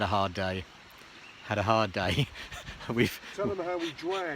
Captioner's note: laughs